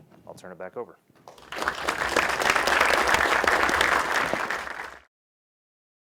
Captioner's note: applause